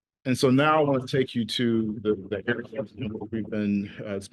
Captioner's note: audio stutters